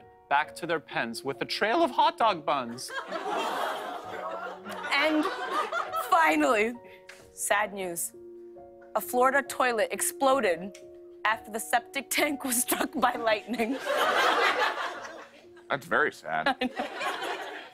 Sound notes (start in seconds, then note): 13.5 laughter